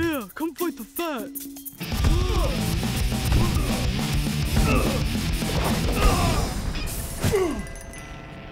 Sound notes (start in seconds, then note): 2.1 belly slam